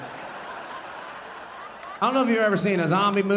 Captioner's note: audience laughing